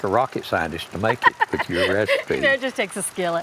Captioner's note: laughing